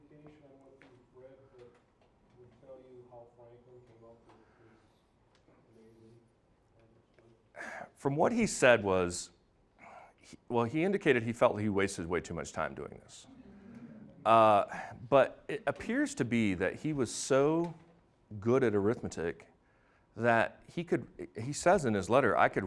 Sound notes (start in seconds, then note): 13.2 audience laughing